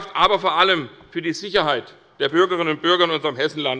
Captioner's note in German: none